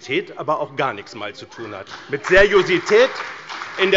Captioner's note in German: Beifall bei dem BÜNDNIS 90/DIE GRÜNEN und der CDU